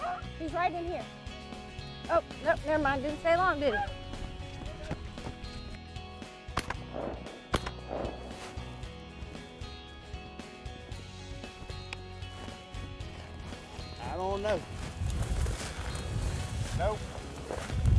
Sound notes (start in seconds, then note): 6.6 guns firing